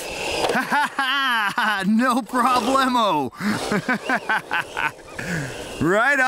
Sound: laughs

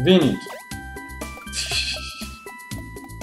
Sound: tee-heeing

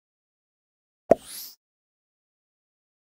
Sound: sound of pop

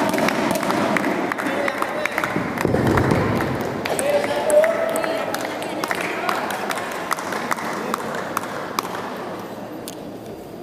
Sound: applause

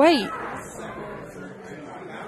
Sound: crowd chatter

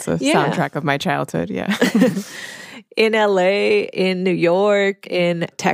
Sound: both chuckle

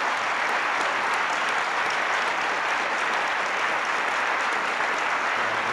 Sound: applause

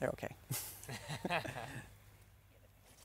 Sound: laughing

